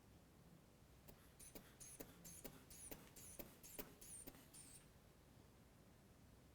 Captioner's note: squeezing inflation bulb